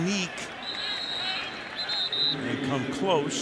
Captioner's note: whistle